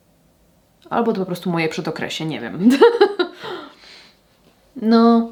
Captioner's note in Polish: śmiech; wciągnięcie powietrza